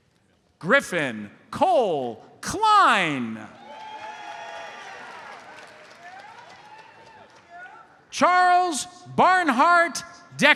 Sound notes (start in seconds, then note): 3.6 audience applauds